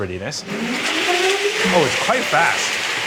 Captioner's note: machine whirring